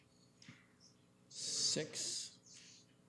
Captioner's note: whispering